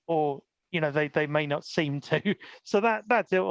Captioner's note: laughs